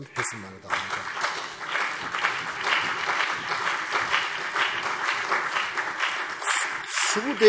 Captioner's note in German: Beifall CDU und BÜNDNIS 90/DIE GRÜNEN